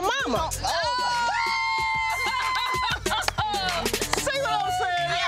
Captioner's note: all exclaim and laughter